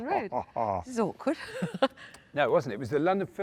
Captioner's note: laughs